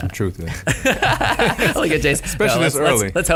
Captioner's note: laughs